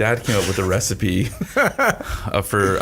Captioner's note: laughs